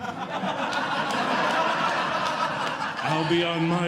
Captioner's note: audience Laughing